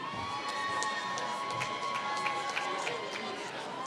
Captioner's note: applause